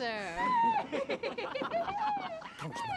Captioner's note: giggling